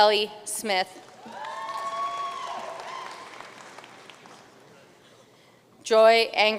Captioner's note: audience cheering and applauding